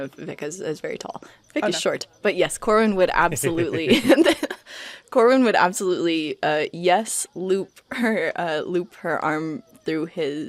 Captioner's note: laughs